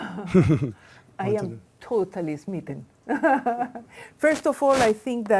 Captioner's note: laughs